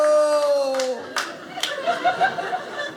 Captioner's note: audience laughing